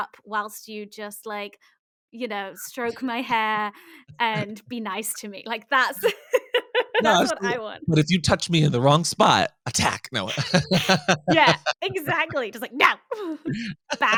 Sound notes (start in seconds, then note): 9.6 both laugh